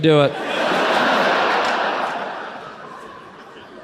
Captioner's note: audience laughs